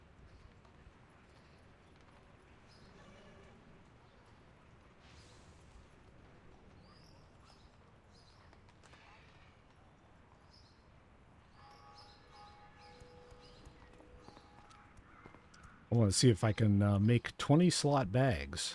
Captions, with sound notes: [BIRDS CHIRPING] I want to see if I can make 20-slot bags.